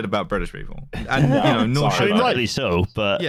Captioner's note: laughs